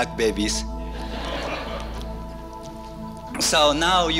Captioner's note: audience laughter